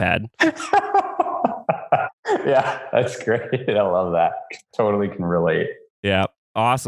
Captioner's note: laughs